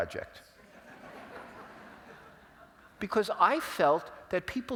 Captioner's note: laugh